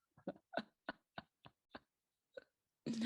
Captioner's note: laughs